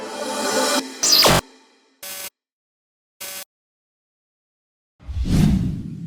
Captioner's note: digital chime; electrical sound effect